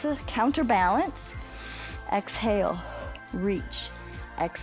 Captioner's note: exhales; inhales